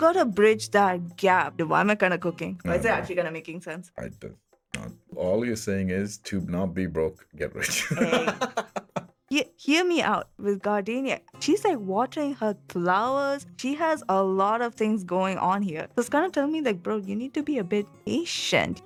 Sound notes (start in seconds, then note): 7.6 laughs